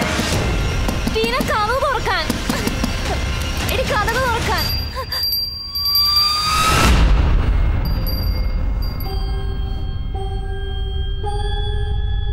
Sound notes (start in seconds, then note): 4.2 bell Rings